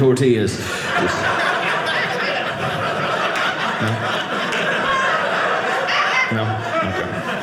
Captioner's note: audience laughing